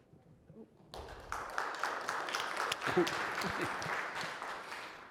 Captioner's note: applause